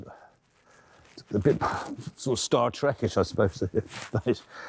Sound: chuckling

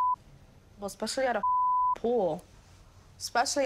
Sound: beep

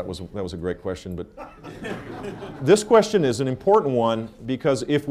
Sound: laughter

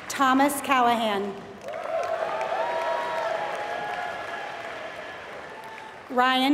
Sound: applause

